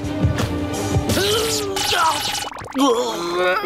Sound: groaning

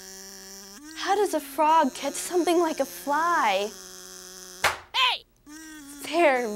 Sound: buzzing

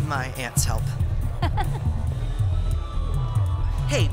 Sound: laughs

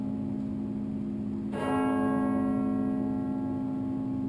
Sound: bells chiming

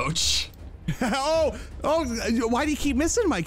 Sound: laughs

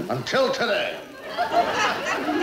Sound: audience laughing

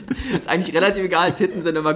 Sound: laughs

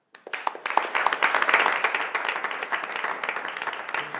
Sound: audience applauding

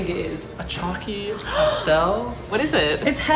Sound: gasps

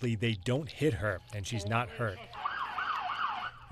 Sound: nats: sirens

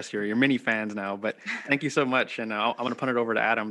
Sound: laughing

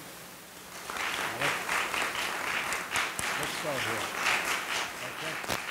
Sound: audience applauding

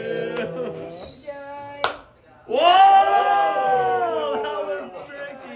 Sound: group cheering

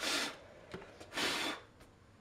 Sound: frantic blowing

